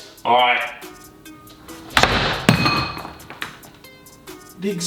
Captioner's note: door thuds